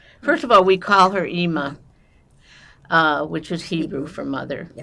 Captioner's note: none